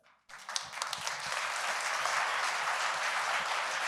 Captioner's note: audience clapping